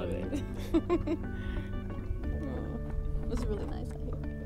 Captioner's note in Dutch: Tracey lacht